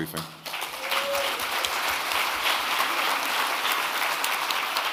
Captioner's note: audience clapping